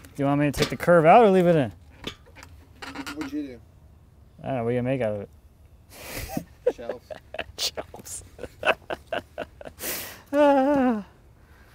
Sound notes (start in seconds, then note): 8.6 laughing